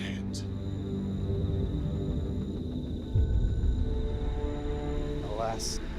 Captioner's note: crickets chirping; eerie music